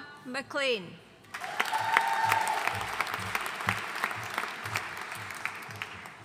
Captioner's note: audience cheering and applauding